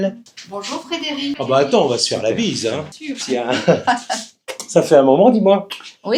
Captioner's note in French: rires